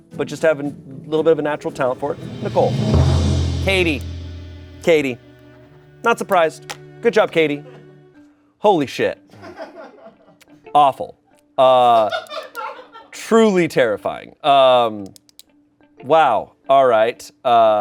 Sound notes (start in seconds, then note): 3.4 bright music; 12.1 crew laughing